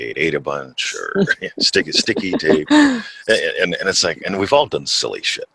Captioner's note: laughs